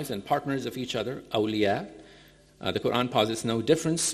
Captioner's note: speaking in foreign language